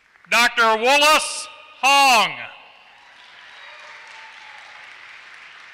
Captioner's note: applause